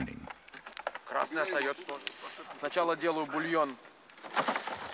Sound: Russian spoken audio

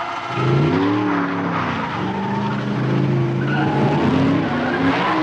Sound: tires screech; K.I.T.T. accelerates

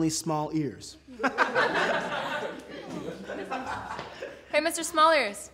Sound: group laughing

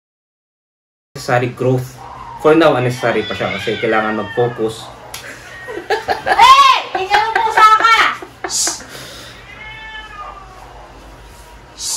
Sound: blooper... cat was growling

